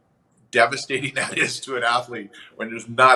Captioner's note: chuckles